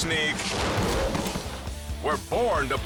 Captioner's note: person thuds